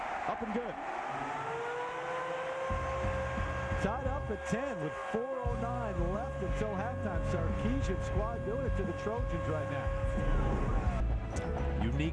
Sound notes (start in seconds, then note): 0.0 cheering, applause